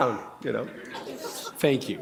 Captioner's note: chuckle